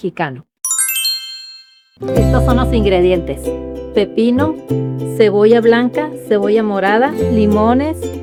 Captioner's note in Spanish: campana